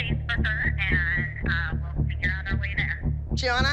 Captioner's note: woman on phone